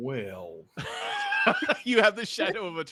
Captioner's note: laughs